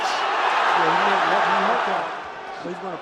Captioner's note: cheers